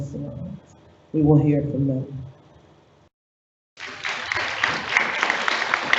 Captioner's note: audience applauds